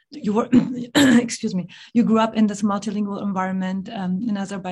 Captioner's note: coughs